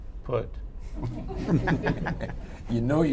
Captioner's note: laughter